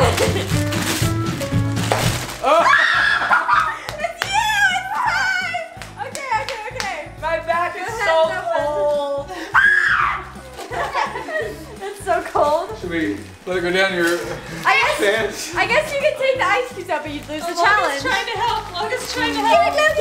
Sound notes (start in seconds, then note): 2.4 children screaming; 9.5 child screaming